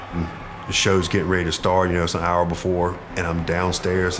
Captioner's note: crowd cheering